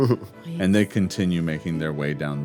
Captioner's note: laughs